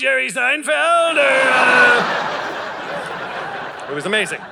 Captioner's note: audience laughing